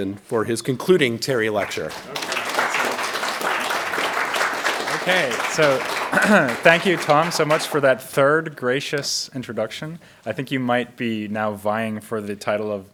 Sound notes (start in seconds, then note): 1.5 audience applauds